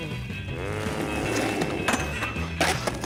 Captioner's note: growls